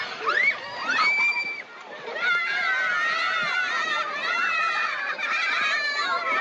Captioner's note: the Children Scream and Hoot